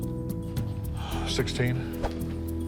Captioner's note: sighs